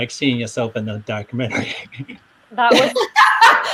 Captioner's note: laughs